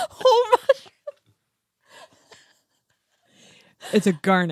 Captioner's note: laughs